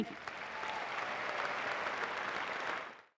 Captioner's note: applause